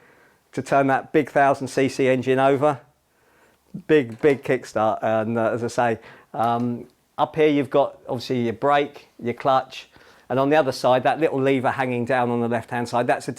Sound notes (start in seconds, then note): none